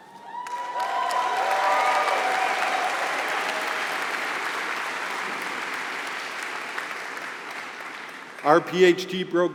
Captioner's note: applause